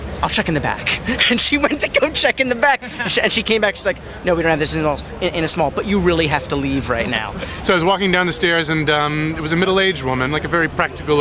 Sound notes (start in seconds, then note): 2.4 laughs